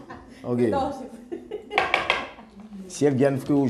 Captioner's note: Rires